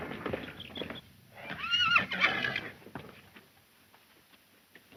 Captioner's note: horse whinnies